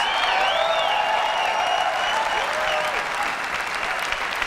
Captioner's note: audience cheering